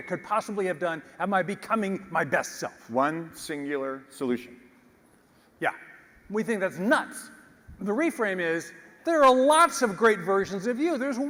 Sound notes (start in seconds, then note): none